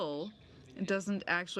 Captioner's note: speaking French